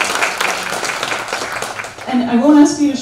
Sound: applause

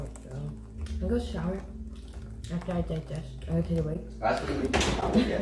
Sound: laughs

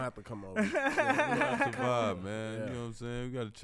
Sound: laughs

